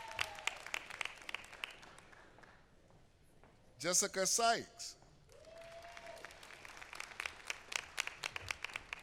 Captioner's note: applause